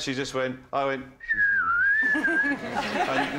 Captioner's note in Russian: свистит